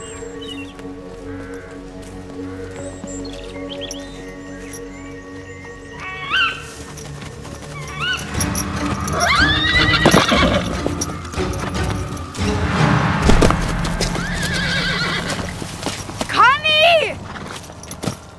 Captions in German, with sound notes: (Vogelkreischen) (Lautes Wiehern) (Dramatische Musik) Conny! Conny!